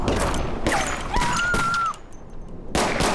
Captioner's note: screams